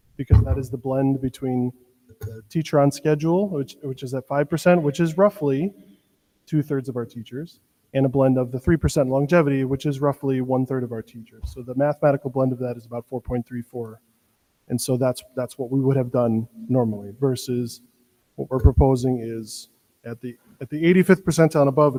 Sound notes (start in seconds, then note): none